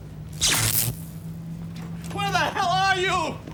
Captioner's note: electricity crackling